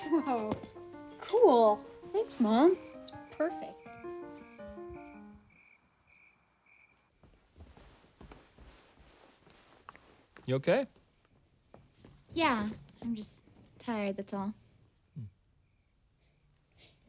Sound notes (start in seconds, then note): 2.7 crickets chirping; 3.9 classical piano music